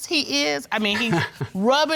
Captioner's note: chuckles nervously